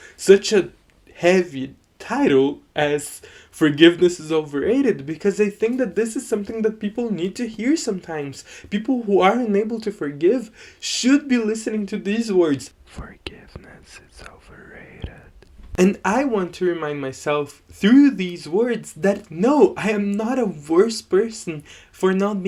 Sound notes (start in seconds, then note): 12.6 whispering